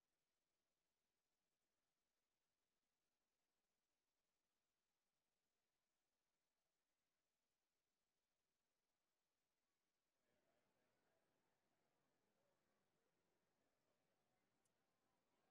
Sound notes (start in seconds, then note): none